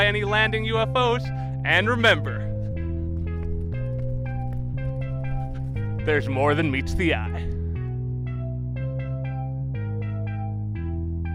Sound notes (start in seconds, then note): 2.3 suspenseful running